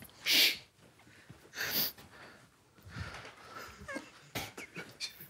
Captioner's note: group quietly laughing